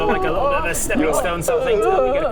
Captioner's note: emotional noises